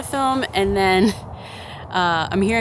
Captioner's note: chuckles